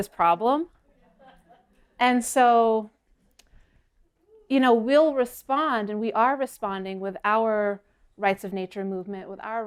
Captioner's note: laughter